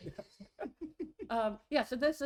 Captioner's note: laughs